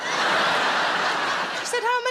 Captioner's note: audience laughing